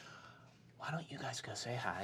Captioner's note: none